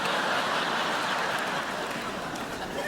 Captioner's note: crowd laughs